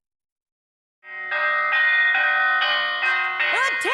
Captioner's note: clanging bell